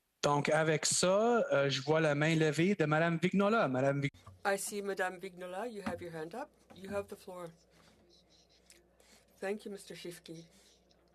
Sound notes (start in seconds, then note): 3.5 speaking French